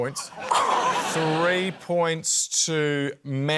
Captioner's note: scoffs